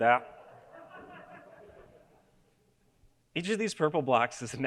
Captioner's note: audience laughing